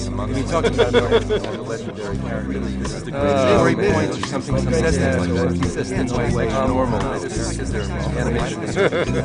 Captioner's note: lots of audience chatter all performed